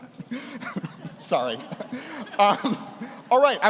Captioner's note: laughs